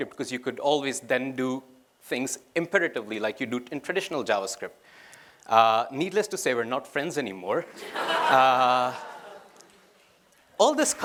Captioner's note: laughter